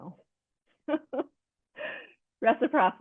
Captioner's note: chuckles